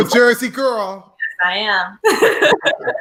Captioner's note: laughs